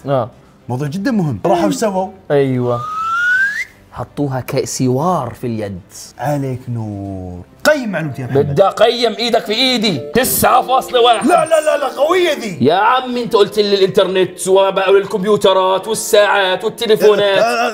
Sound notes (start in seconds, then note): 2.7 whistles